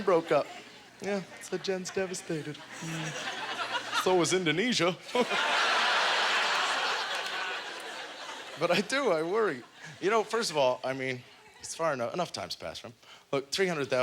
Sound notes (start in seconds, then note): 5.0 audience laughter